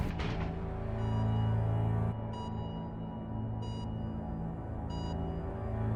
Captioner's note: sound of slow heartbeat on heart rate monitor